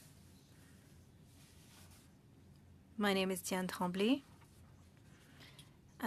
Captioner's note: speaking French